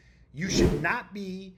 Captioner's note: text whooshing